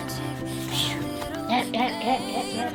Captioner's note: whistles